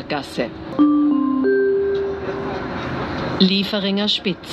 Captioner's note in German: Gong